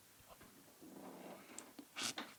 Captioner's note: sniff